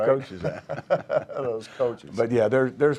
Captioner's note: laughing